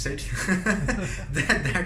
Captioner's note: laughing